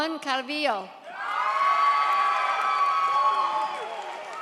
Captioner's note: audience cheers